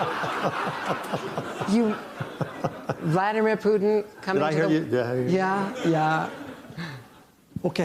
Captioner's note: laughter